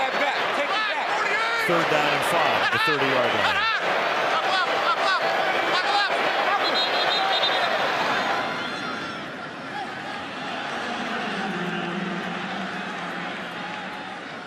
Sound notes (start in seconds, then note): 6.6 whistle